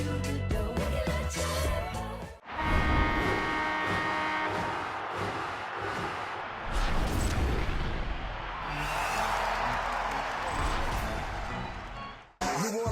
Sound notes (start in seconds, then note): 2.4 goal horn; 3.8 crowd cheering; 6.4 whoosh; 11.2 organ